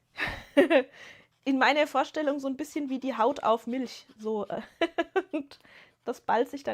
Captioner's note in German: gelächter